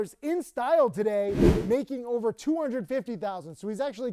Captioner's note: wind whooshing